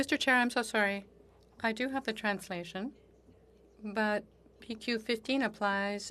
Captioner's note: speaking French